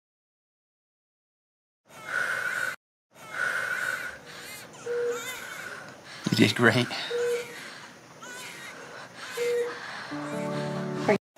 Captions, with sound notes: [baby crying] you did great. [crying continues] aren't